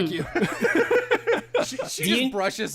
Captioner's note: laughter